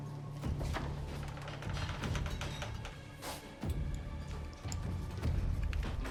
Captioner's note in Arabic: موسيقى متوترة; صرير الباب مفتوحًا ومغلقًا